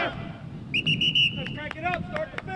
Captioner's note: whistle blows